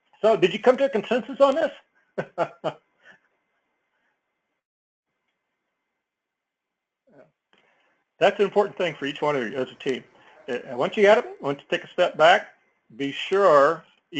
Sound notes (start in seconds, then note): 2.2 laugh